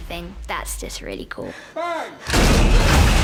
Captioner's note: thud